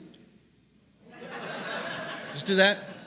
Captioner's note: laughter